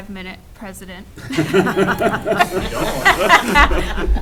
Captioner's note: all laughing